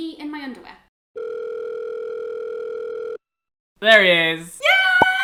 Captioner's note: phone rings